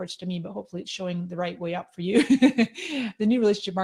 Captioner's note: laughing